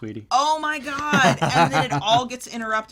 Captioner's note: laughs